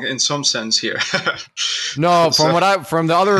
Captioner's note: laughs